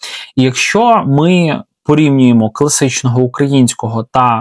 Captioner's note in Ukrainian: сопіння